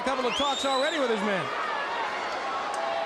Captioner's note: crowd cheering